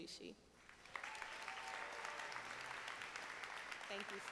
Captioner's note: audience applauding